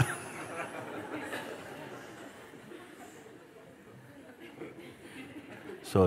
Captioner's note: Lachen